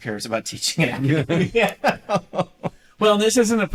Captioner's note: laughter